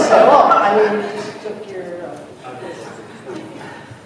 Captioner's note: laughter